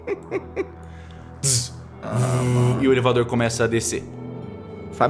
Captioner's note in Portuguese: tss; vrrr